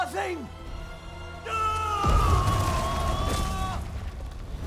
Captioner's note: scream